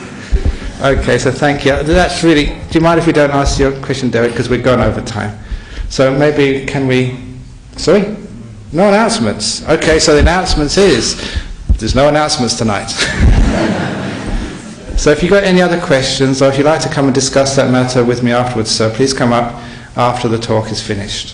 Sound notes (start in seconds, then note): 12.9 laughter